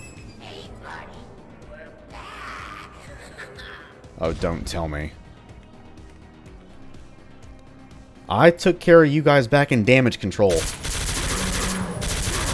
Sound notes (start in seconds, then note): 4.0 explosion